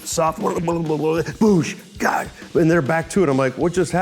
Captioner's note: mimics drumming